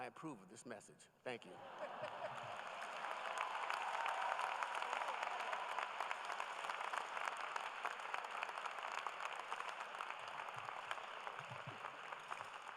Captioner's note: applause